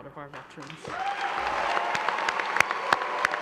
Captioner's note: applause